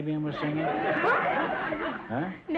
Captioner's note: audience laughter